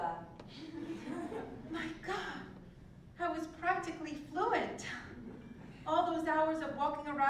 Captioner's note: laugh